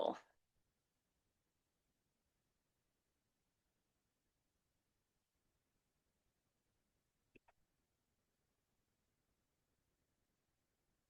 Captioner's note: silence